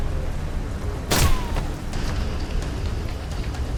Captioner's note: gunshot